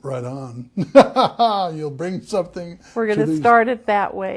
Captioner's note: laughter